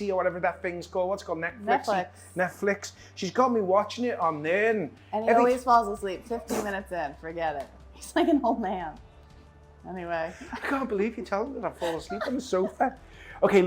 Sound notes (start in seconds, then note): 10.4 laughing